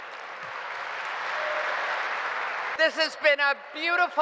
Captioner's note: applause